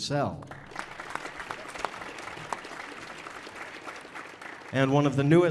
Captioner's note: audience applauding